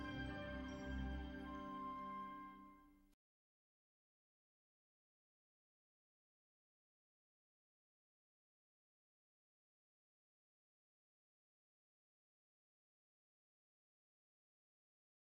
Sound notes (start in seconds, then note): 3.7 silence